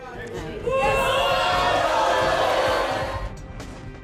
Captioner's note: audience boo's; suspenseful music